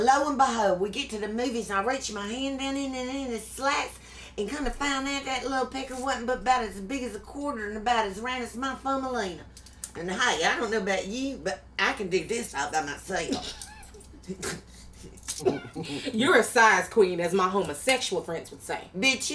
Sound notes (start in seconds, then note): 13.2 laughs